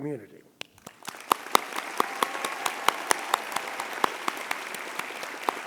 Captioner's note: audience applauding